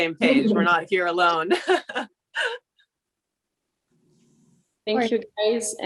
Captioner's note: laughs